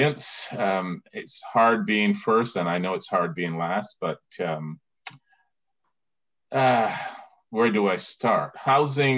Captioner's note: sigh